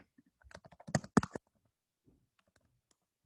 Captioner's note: typing